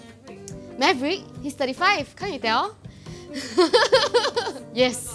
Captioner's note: laughs